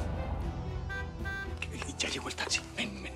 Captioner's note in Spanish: sonido del claxon